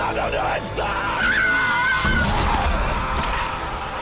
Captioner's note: screaming